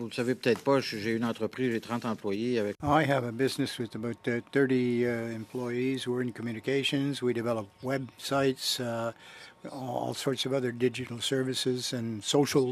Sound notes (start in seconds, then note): 6.1 speaking french